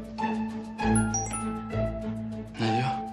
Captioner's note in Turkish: Mesaj sesi